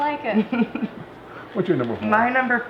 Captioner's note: laughs